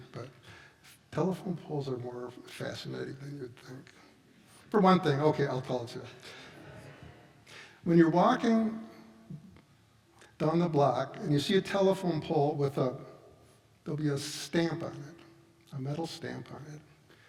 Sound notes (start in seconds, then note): 6.5 audience laughs